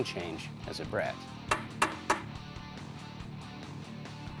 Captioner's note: tapping